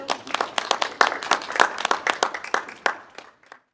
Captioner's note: audience clapping